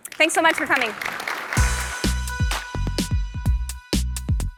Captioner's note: applause